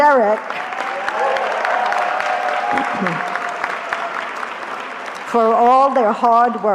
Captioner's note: cheering